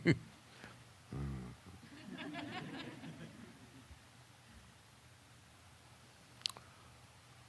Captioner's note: Sadhguru Laughs